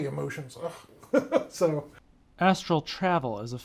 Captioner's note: chuckling